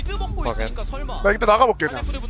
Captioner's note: BuZz